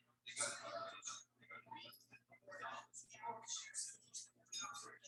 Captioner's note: people chattering indistinctly